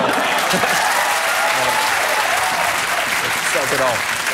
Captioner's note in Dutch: applaus